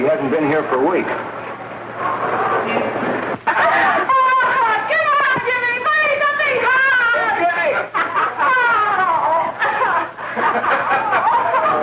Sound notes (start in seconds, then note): 9.4 laughing